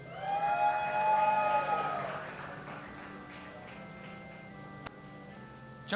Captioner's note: audience applauding and cheering